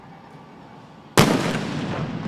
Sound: explosive boom

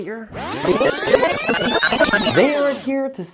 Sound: video rewinding

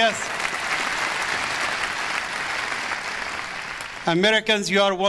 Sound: audience applause

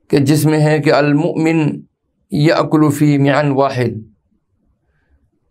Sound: arabic

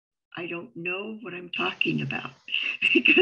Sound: chuckles

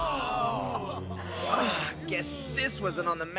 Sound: groaning

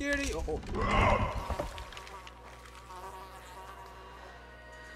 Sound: monster grunts

